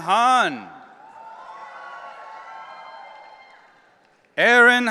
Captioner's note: audience cheering